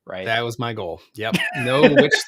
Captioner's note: laughs